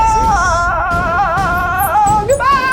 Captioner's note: yelling